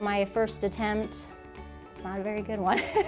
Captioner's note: laughs